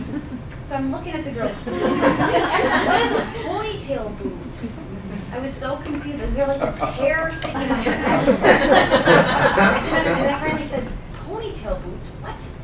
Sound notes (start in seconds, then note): 1.2 laughing; 9.3 laughing